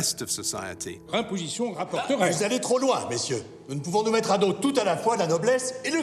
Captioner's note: men speaking in French